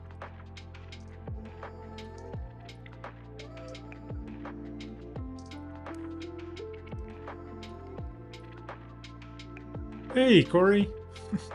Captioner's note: chuckles